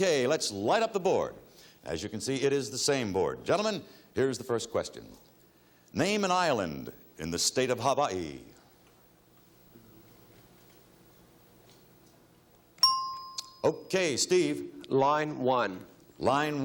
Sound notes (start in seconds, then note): 12.8 bell chimes